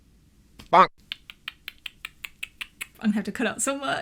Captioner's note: making clicking noises